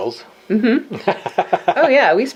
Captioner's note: laughs